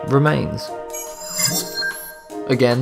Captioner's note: sharp chiming